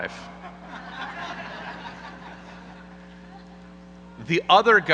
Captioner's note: audience laughing